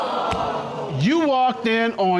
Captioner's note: audience exclaiming